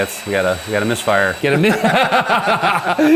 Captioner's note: both laughing